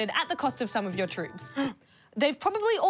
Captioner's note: gasps